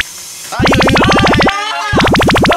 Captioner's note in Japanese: 歓喜